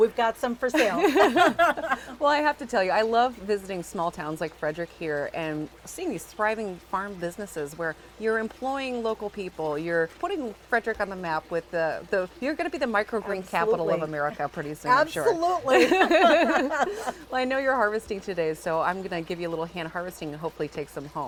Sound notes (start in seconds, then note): 14.9 ladies laughing